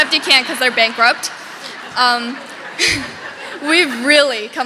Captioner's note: audience laughing